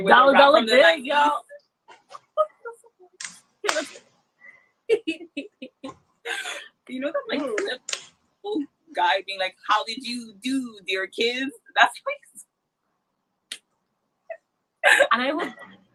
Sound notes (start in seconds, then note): 2.1 laughs; 13.0 laughs